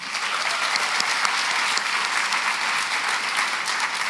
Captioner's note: applause